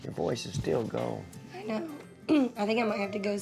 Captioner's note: says hoarsely